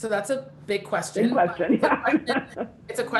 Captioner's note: laughing